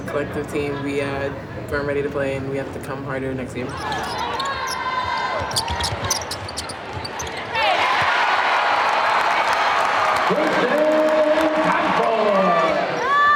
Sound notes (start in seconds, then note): 7.4 cheering